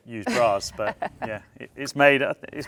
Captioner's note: laughs